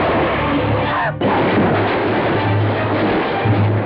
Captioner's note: crashing noise